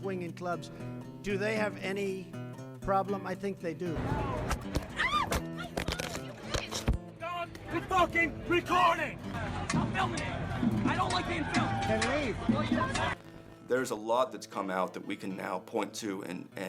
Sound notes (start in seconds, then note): 4.9 screams; 13.0 yelling